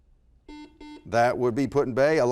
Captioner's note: beeping